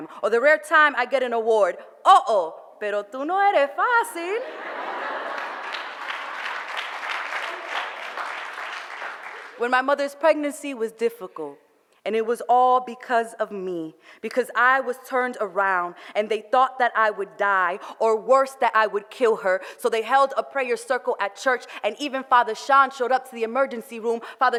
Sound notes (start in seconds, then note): 3.7 foreign language; 4.5 audience laughter and applause